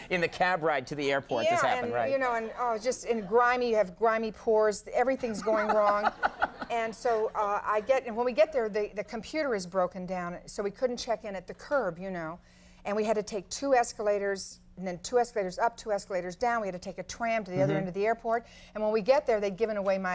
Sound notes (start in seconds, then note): 6.0 Conan laughing